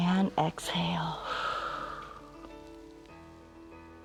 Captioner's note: exhales